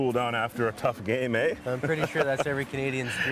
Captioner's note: laughs